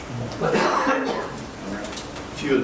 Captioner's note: man coughing